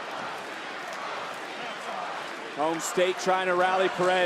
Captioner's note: crowd chants "roxy"